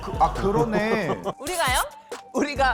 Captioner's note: sound effect of being automatically enrolled